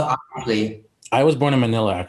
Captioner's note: Bretman mumbles